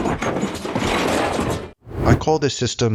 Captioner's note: objects clatter